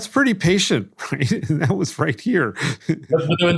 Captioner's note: laugh